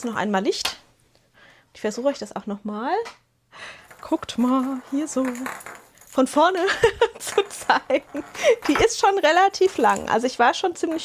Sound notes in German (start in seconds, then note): 6.6 gelächter